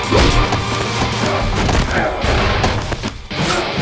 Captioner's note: blows thudding; intense rock music